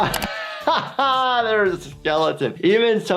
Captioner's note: laughing